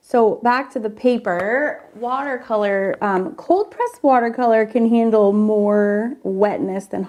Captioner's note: none